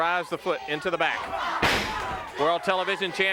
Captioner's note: blows thudding; crowd cheering